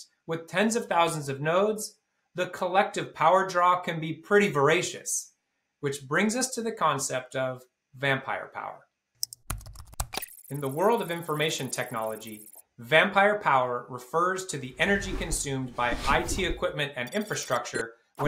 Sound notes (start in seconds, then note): 9.2 computer keys clicking; 10.2 electronic text squealing